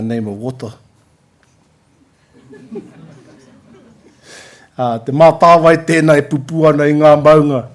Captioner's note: laughter